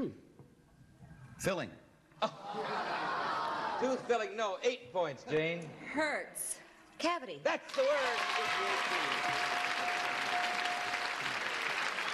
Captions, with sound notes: -Tooth. -Filling. (laughter) -Tooth, filling, no. Eight points, Jane. -Hurts. -Cavity. -That's the word! (cheers and applause)